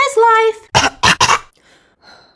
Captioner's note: choking